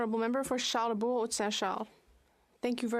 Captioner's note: speaking French